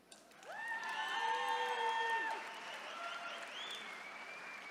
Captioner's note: attendees cheering